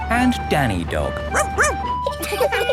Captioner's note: sirens sounding; barks; laughing